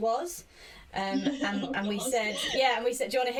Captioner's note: laughs